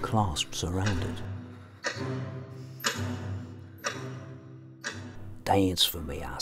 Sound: ticking

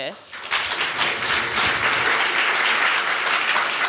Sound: applause

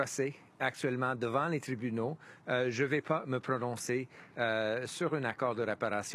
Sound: speaking French

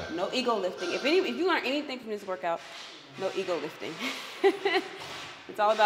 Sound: laugh

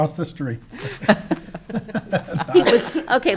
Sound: all laughing

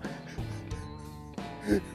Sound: laughs

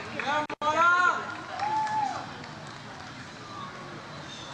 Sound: audience applauds

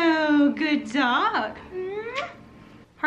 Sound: kiss

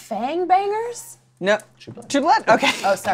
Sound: laughs

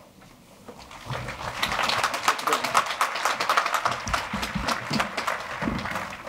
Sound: audience applauding

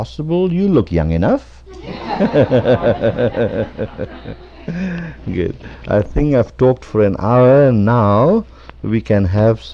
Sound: laughter

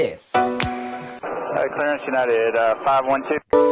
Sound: music off, ATC comunication voice

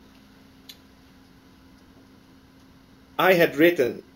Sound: pause

